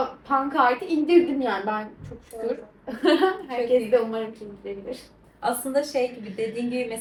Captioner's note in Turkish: kahkaha